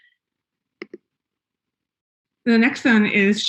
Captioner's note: mouse clicking